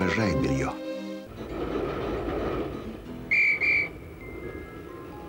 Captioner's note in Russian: свист